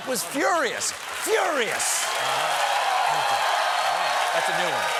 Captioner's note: cheers and applause